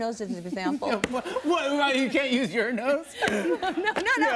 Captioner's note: laughing